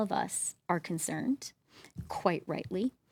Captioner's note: speaking French